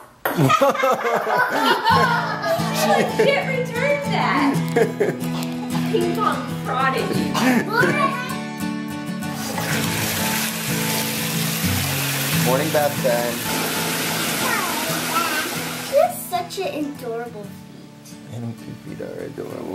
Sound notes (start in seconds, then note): 0.4 laughing